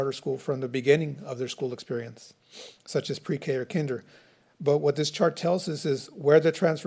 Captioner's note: snorts